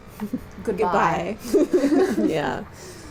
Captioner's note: laughter